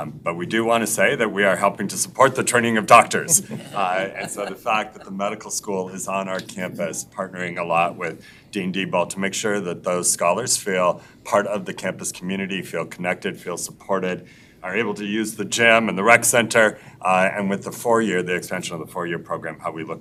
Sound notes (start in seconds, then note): 3.1 members laughs